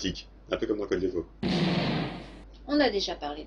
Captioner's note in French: boum